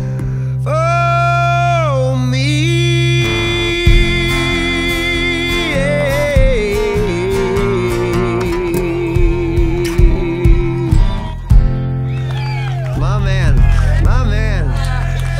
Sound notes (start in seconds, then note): 6.4 cheers and applause